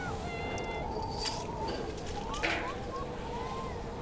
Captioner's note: wind howling